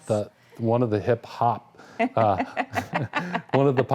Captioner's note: laughing